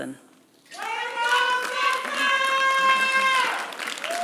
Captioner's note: applause